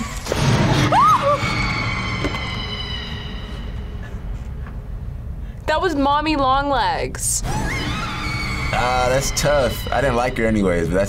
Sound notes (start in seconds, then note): 0.7 screams; 0.8 girl screams; 7.6 girl screams